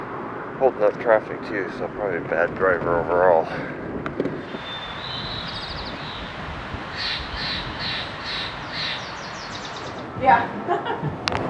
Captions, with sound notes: Holding up traffic too, so probably a bad driver overall. [birds] Yeah, [laughing]